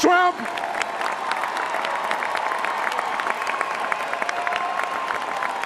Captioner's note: cheers and applause